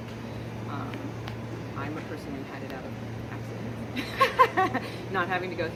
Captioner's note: laughter